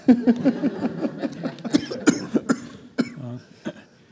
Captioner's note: laughs